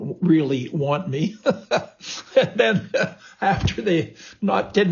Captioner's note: laughs